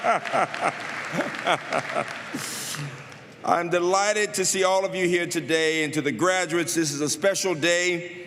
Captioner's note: laughter